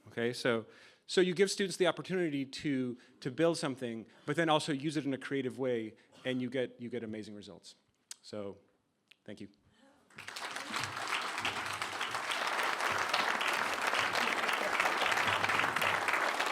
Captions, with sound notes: OK, so you give students the opportunity to build something. But then also use it in a creative way and you get amazing results. So thank you. [APPLAUSE]